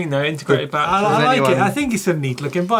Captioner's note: all chatting excitedly